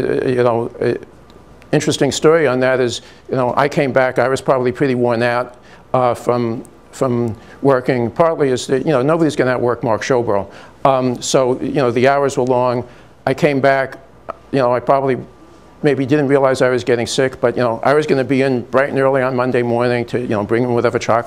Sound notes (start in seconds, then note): none